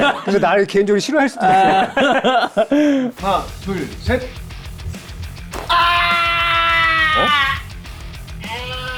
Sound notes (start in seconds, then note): 5.6 scream of a gang member